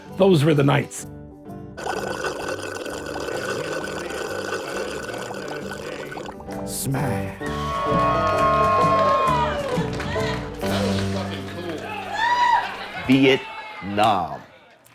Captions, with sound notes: Those were the nights. (William and Mikey slurp drink) (crowd cheers) - Vietnam!